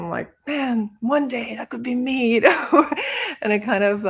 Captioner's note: laughs